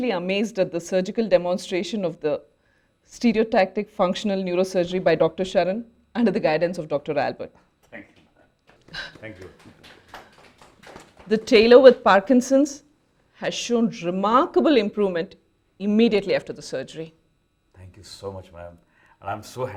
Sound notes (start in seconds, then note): 8.6 applauses